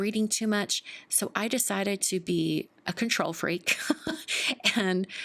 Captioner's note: chuckles